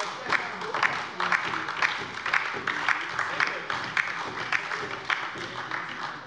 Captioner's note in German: Beifall von der LINKEN und der SPD